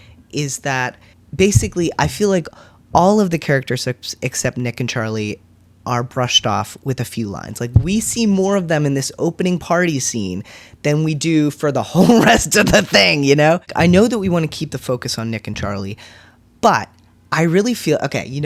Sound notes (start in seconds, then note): none